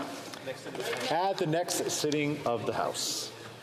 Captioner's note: speaking French